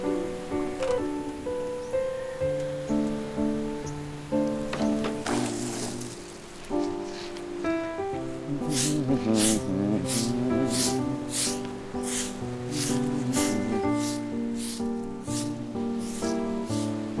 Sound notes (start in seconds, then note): 8.5 humming